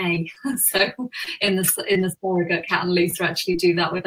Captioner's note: laughs